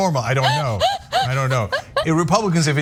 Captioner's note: laugh